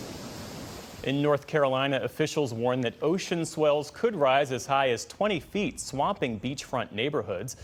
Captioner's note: waves crashing